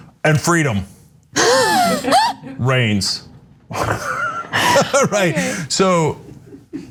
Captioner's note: laugh